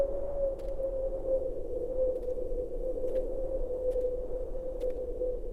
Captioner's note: wind whistling continues